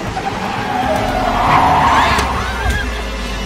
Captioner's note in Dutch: Alejandra schreeuwt